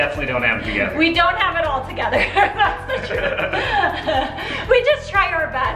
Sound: laughs

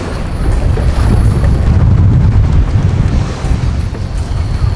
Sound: wind blowing

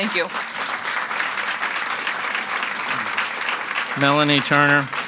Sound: audience clapping

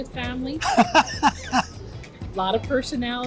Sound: laughs

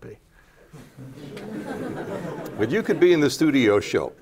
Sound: laughter

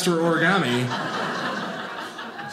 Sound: audience laughing

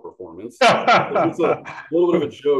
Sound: laughs

